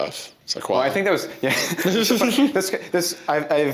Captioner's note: both laugh